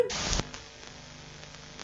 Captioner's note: static noise